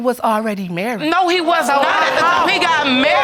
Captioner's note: audience exclaims